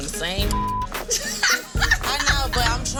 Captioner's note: laughing